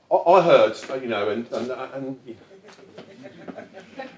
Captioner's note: audience laughs